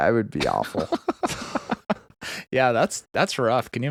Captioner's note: laughing